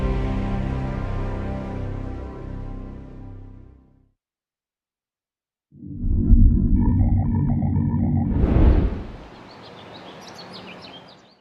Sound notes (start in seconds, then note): 1.6 music fades; 6.0 brief rumbling tone; 9.2 ambient birdcalls